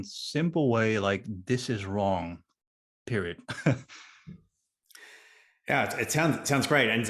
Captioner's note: laughs